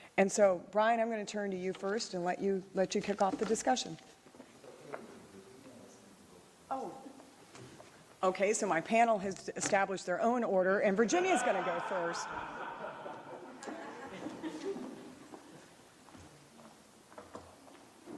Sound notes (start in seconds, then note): 11.0 laughter